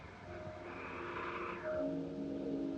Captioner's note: wind blowing